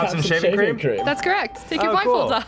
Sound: ding

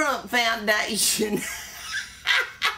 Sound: laughs; laughs

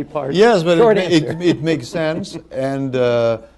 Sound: laughter

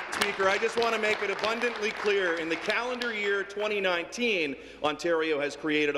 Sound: applause

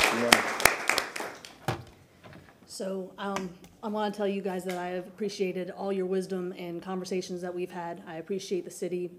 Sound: applause

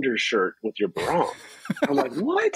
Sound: laughs

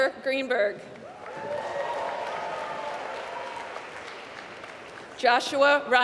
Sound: applause

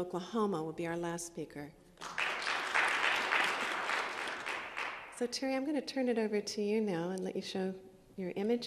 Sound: applause

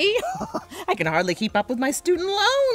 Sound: laughs

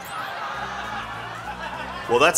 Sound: crowd laughing

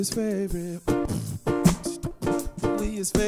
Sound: beatboxing

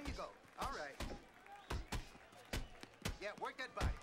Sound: audience cheering

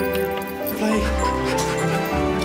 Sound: panting

